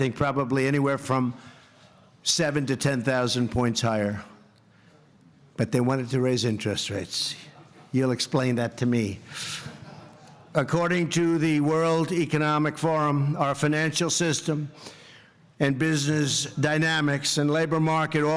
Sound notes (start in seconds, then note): 9.6 laughter